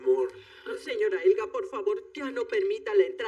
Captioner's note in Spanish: none